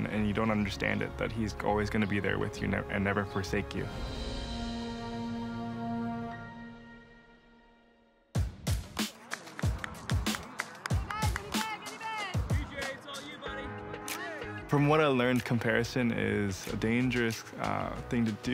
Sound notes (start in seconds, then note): 7.1 gentle music fades; 8.9 upbeat music; 8.9 woman cheering; 13.0 crowd